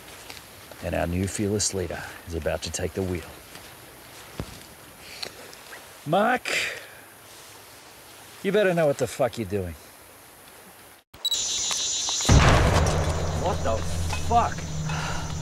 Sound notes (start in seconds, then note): 11.1 cicadas chittering; 11.2 camera beeps; 12.2 loud gunshot